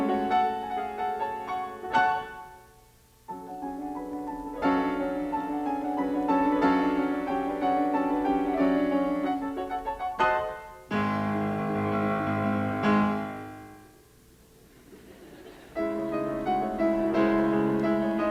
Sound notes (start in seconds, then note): 4.8 dramatic piano chord; 14.6 crowd chuckles; 15.7 piano music